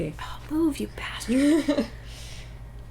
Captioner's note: laughter